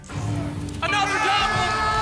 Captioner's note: booms